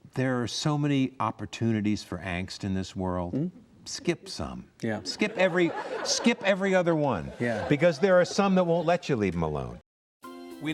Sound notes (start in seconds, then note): 4.9 audience laughs